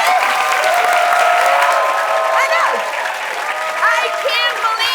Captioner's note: cheers and applause